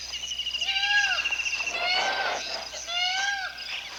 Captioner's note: bird calls